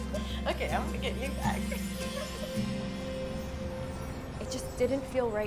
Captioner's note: laughs